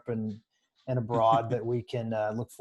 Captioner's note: laughs